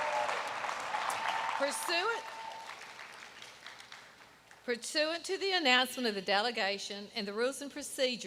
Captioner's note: applause